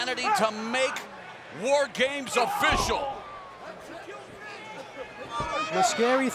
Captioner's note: wrestler grunts